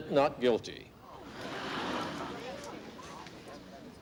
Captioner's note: crowd gasping